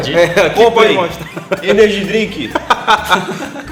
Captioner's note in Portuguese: Risos